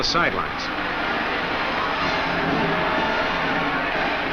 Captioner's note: crowd cheers